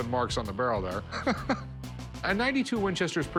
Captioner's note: chuckles